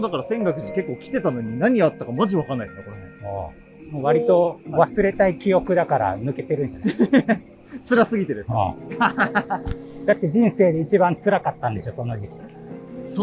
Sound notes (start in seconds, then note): 8.9 laughing